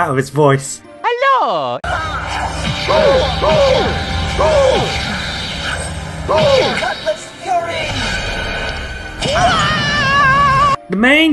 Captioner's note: Plays Mario sound effects